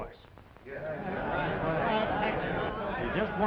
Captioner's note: more murmurs